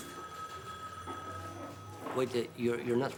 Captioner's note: phone rings